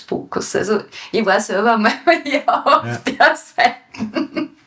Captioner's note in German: Lacht